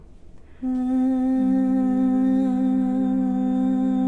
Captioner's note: humming